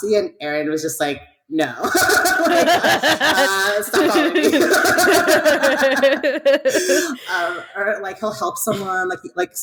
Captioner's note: laughs